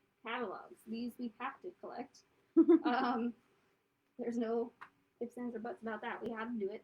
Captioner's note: laughter